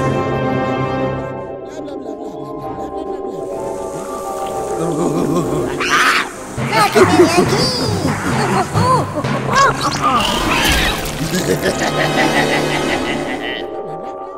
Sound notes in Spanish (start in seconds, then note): 4.7 voz de gorila; 10.6 risa gorila burlón